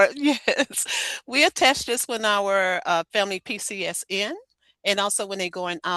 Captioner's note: laughs